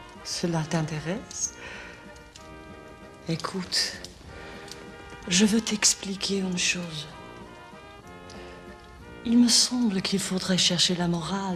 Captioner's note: speaking french